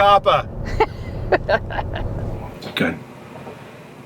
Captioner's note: laughing